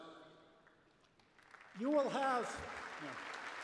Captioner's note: applause